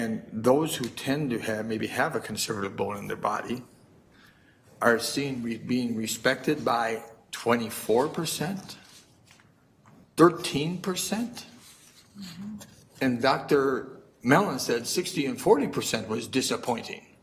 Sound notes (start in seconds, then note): none